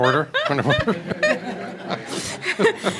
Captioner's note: laughter